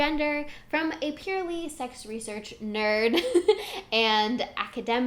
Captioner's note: giggles